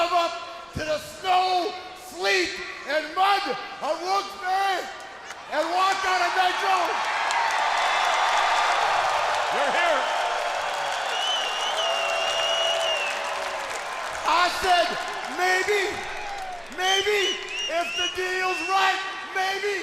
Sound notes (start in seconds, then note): 9.1 crowd cheering